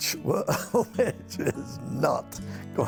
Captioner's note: laughing